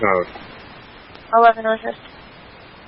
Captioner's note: radio traffic